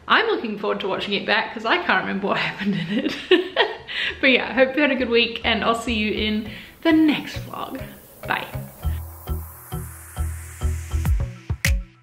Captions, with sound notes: I'm looking forward to watching it back. Cause I can't remember what happened in it. (laughs) But yeah. Hope you had a good week. And I'll see you in the next one. Bye. (upbeat music)